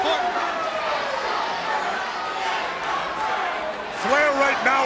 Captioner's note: crowd cheering